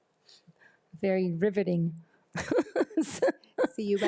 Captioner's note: laughs